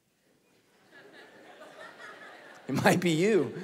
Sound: congregation laughing

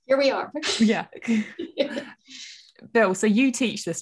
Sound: laughing

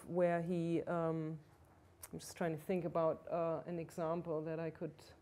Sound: none

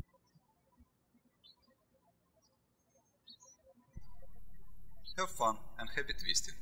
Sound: birds chirping

